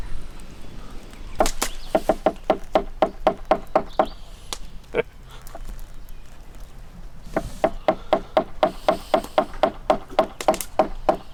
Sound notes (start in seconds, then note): 1.4 tapping wood; 7.3 taps wood again